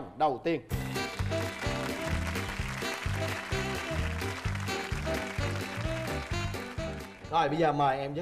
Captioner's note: applause